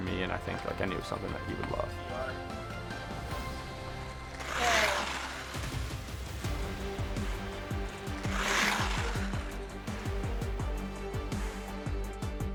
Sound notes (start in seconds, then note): 2.9 bright music continuing; 3.7 skates scraping on ice; 6.5 energetic rock music